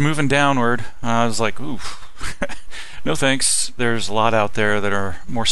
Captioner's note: laughing